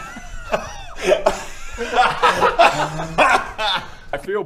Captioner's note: giggles